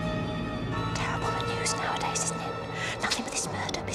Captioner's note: berbisik